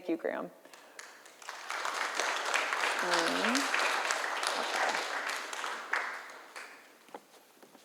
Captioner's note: applause